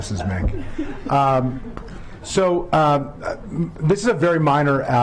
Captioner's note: laughter